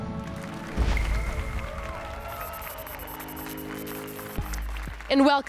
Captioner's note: applause and cheers